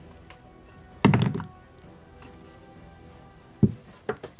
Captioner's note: dice thud